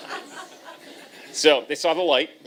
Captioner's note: laughter